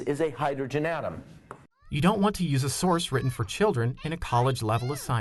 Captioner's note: voiceover